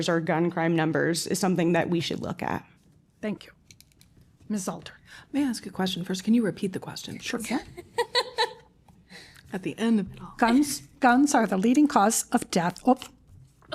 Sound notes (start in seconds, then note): 7.7 laughter